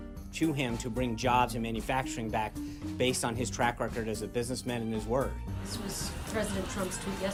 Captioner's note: laugh track